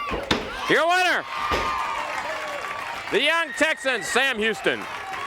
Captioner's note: crowd cheering